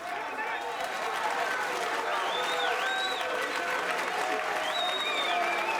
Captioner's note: audience cheers and applauds